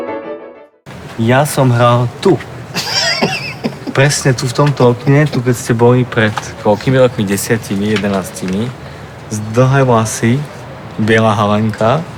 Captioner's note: laughs